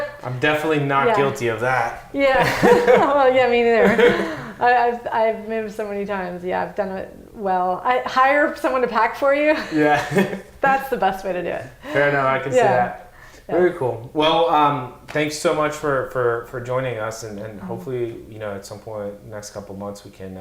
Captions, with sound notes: - I'm definitely not guilty of that. - Yeah, me neither. (laughs) I've moved so many times, I've done it well. Hire someone to pack for you, that's the best way to do it. - Fair enough, I can see that. Very cool, well, thanks so much for joining us. Hopefully, at some point in the next couple months,